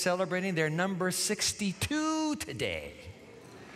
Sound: congregants murmur

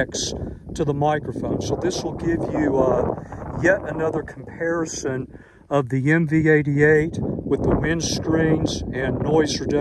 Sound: wind

